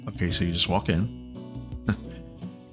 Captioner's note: chuckles